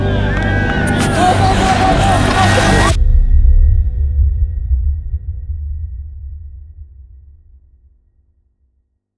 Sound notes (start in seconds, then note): 3.2 low rumble